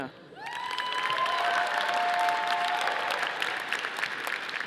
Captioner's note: audience applauding